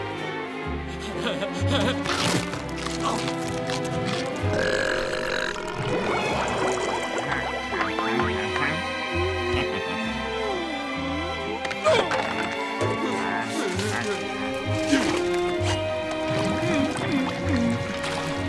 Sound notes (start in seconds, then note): 1.0 laughing; 4.1 belching; 16.0 humming